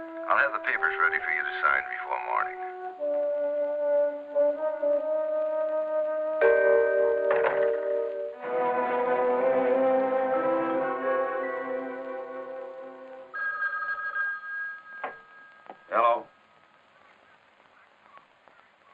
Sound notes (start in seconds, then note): 3.7 suspenseful music; 8.7 pensive music; 13.3 phone ringing